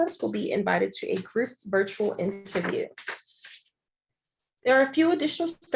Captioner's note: pages rustling